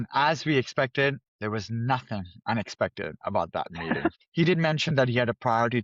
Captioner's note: laughs